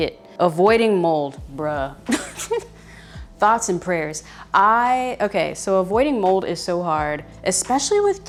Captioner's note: laughs